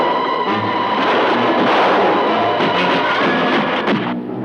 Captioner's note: distant guns fire